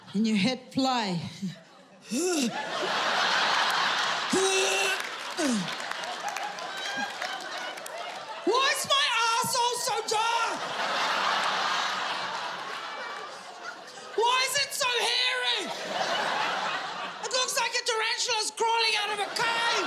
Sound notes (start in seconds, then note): 2.1 Urzila puking; 2.8 audience laughing; 10.9 audience laughing; 15.9 audience laughing